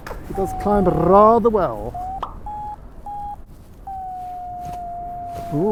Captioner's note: Vario beeps